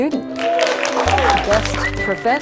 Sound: cheering

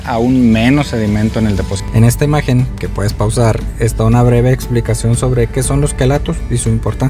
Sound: spanish

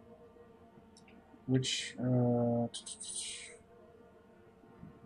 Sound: tut-tutting

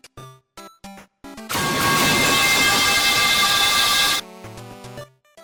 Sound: loud sounds of a metal pipe

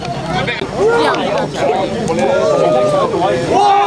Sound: crowd chattering; crowd

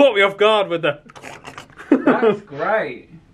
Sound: laughing; mimics eating noises

